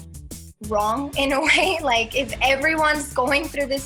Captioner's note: chuckles